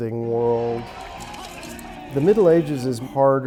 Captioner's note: gentle music; lances clattering